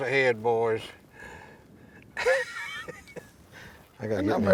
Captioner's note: laughs